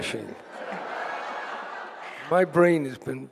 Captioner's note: audience laughing